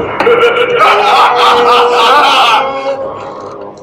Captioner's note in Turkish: Kahkahalar